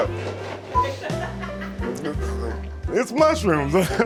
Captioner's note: laughter